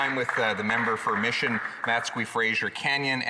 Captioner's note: some Applause